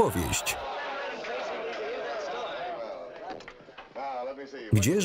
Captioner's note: shouts of encouragement